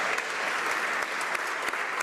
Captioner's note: applause